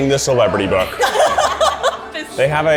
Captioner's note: laughter